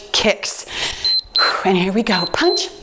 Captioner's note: timer beeps